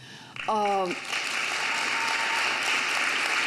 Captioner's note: audience cheers